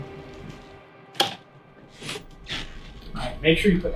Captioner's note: door creaking; switch clicks